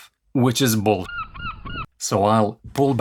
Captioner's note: seagulls